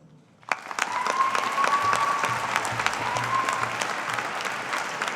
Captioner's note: audience applauding